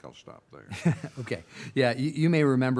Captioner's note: laughing